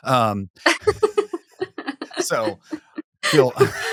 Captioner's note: laughing